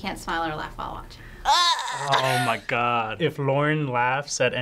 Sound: groans

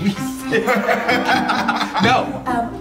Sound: guys laughing

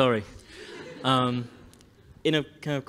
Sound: laughter

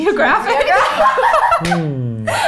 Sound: laughing

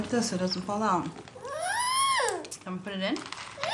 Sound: child squealing

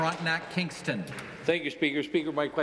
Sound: applause

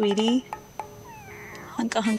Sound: cat's meow

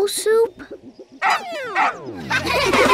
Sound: laughing; barking

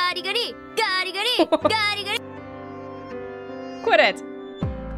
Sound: chuckles

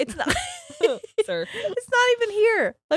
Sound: both laughing

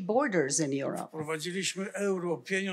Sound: foreign language

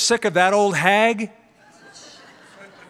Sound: laughter

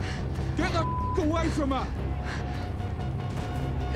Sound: beep; dramatic music

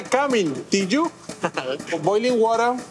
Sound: chuckling

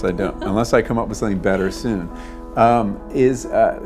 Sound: laugh

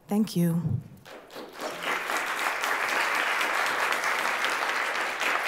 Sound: applause

